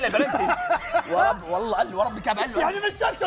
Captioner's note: laughs